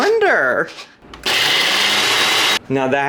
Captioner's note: blender whirring